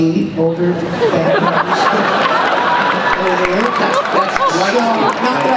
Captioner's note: laughter